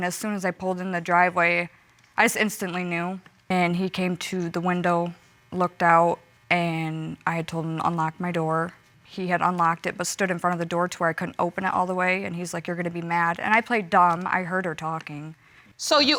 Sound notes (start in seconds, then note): none